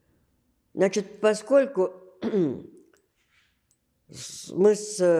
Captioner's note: clears throat